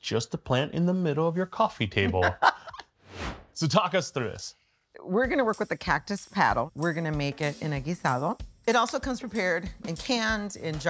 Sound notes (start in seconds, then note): 2.0 laughing